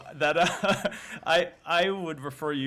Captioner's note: laughter